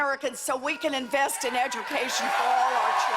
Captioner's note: cheers and applause